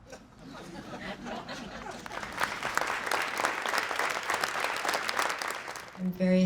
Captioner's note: laughing; clapping